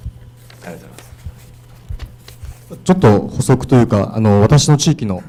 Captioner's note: speaking foreign language